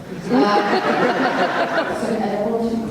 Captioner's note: audience laughter